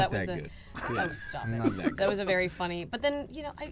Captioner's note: laughs